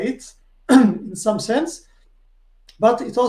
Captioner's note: clears throat